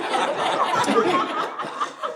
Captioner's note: audience laughing